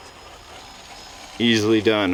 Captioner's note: engine roaring